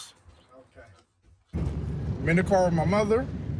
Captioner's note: none